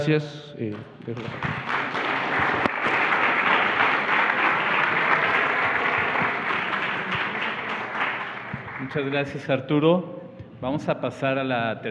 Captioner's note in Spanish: Aplausos